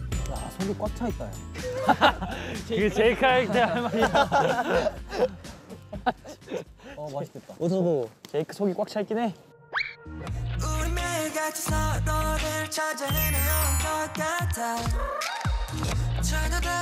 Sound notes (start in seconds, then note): 3.2 cracking up from heartfelt exclamation